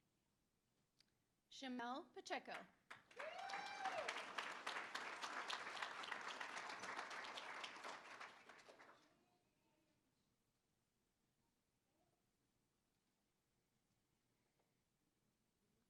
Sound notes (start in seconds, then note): 2.8 applause; 3.1 cheering